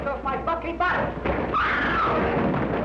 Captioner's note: screaming